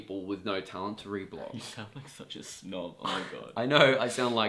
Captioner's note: laughs